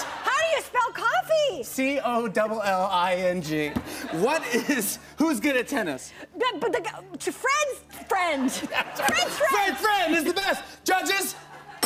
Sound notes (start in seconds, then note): 6.4 stutters; 11.6 bell dings